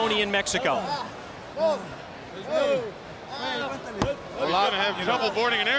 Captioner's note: wrestlers vocalizing